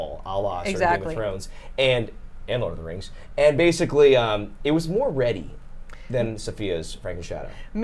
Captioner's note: none